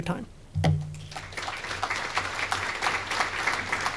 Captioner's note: applause